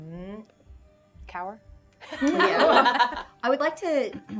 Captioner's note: laughs